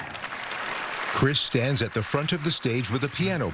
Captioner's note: applause